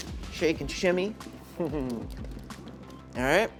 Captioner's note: chuckles